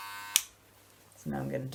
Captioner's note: click